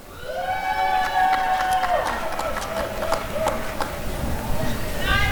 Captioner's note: applause and cheering